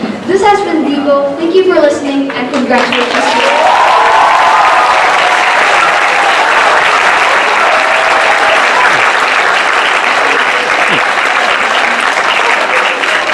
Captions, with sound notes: This has been Divo, thank you for listening, and congratulations to us all. (applause)